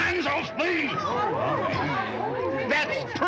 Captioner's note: patrons gasping